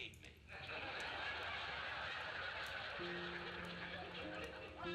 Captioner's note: audience laughing; pensive music